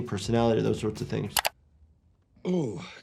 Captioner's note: mouse clicking